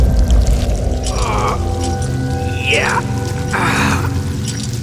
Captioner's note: grunts in pain